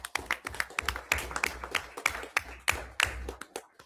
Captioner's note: everyone applauds